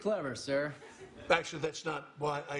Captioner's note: laughter